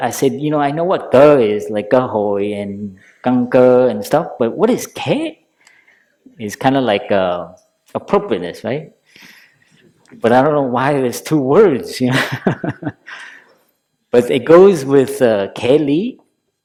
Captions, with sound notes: I said, I know what "cỏ" is, like (Vietnamese) But what is "khế"? It's appropriateness, right? But I don't know why there is two words. But it goes with "khế Lý",